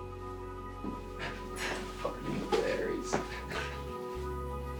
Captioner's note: scoffs; hopeful guitar